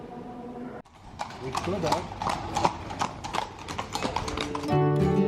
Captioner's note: horse hooves on cobblestone; calming music